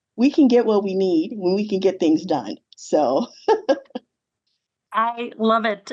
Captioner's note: chuckles